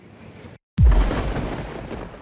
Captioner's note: explosion